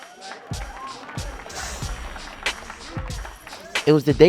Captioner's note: audience applauds